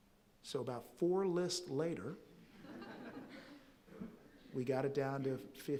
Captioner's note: audience chuckling softly